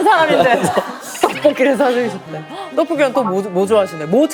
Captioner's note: hahaha